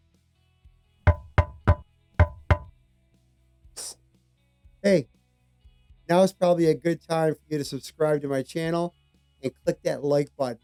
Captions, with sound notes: [KNOCKING] Hey, now is probably a good time for you to subscribe to my channel and click that Like button.